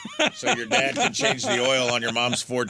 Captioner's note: laughter